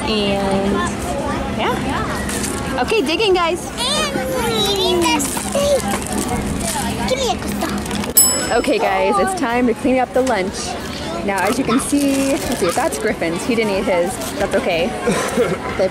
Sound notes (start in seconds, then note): 8.2 bell chimes